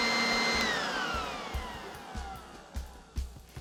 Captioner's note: leaf blower powers down